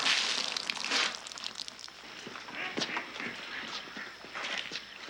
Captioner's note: ducks quacking